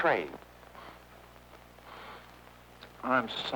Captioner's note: governor sniffing